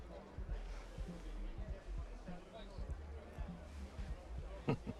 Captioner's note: attendees chattering